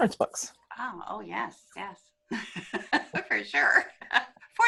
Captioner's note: laughs